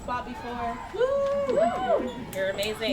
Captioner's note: audience members cheer